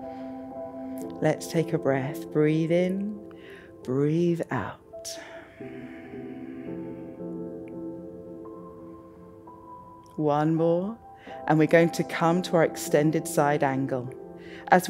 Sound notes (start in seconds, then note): 0.1 inhales; 5.2 exhales